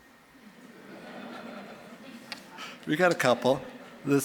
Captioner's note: audience laughing